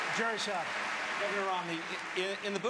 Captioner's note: applause